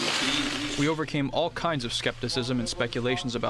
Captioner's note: through translator